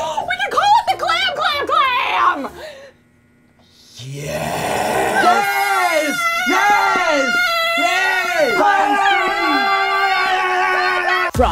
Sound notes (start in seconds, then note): 4.9 woman screaming; 7.8 group screaming